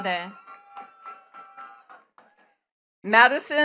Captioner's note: attendees cheering and clapping